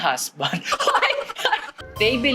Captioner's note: laughter